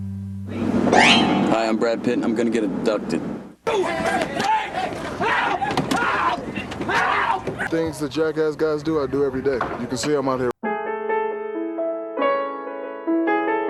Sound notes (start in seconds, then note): 0.8 jumpscare stinger; 3.5 screams of abduction HELP HELP; 10.6 sentimental piano